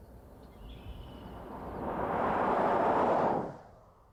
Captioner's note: car sound